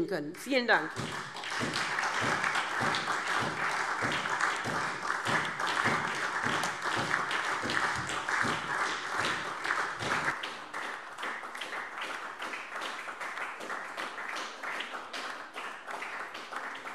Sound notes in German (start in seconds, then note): 3.2 Anhaltender Beifall SPD - Vereinzelter Beifall Freie Demokraten